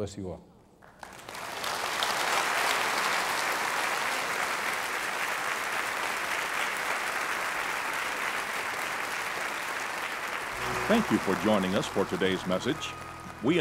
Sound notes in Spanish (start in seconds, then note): 1.2 aplauso